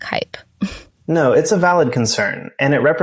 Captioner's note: chuckles